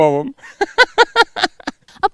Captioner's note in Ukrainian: сміх